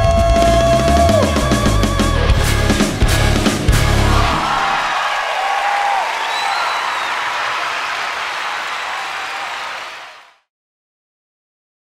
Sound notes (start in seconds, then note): 4.1 audience clapping & cheering